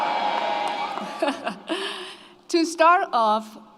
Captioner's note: laughs